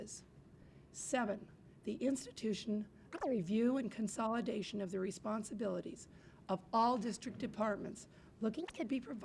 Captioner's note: camera noise